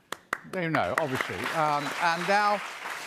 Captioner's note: applause